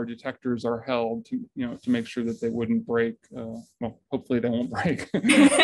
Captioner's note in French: rires